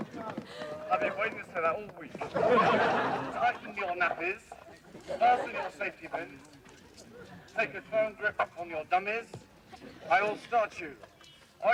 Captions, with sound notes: I've been waiting to say that all week. (students laughing) Tighten your nappies, fasten your safety bin. Take a firm grip on your dummies. I will all start you.